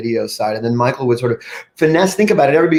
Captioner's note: breathes deeply